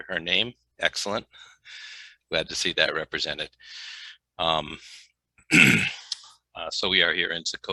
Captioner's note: clears throat